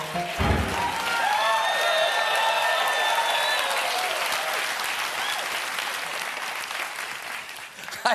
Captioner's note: cheers and applause